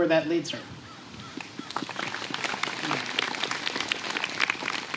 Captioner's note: applause